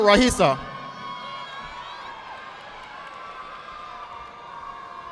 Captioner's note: audience applauding